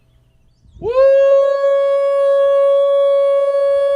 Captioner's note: howling